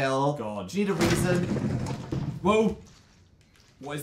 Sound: sarcastically; clanking sound from game

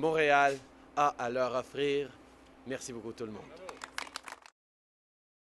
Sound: applause

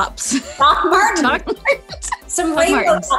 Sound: laughs

